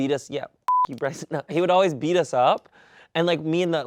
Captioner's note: beep